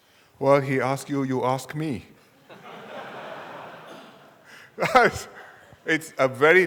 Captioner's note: audience laughter